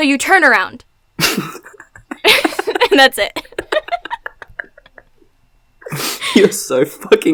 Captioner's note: laughs